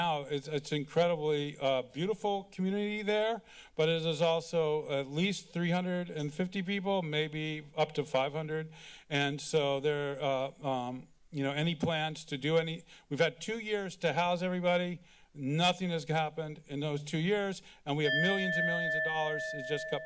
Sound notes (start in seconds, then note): 18.0 alarm sound